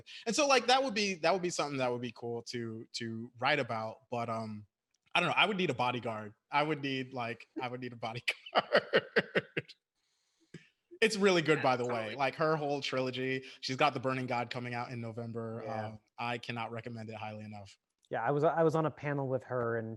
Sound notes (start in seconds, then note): 7.5 chuckles